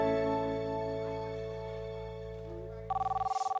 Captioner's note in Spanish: Suena el teléfono